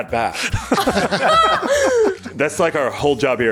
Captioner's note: laughs